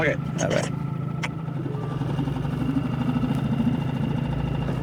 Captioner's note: motor burbling